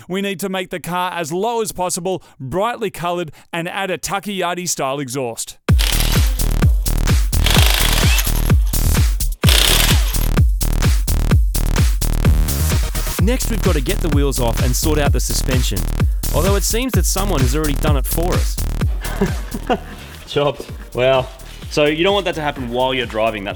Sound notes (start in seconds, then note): 7.4 impact wrench rattling